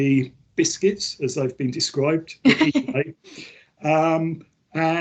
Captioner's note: laughs